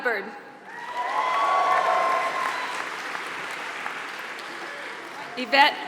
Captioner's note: applause